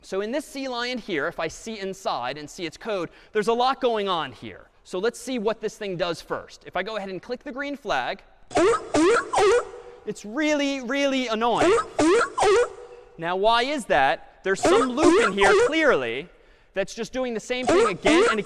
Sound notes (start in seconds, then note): 8.5 sea lion barking; 11.6 sea lion barking